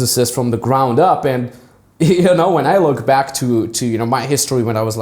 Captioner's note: laughs